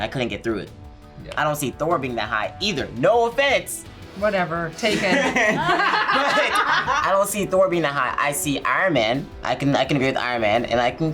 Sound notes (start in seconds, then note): 4.9 group laughs